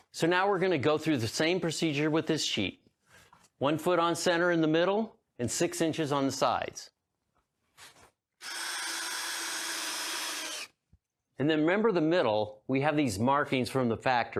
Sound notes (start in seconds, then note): 8.4 drill whirring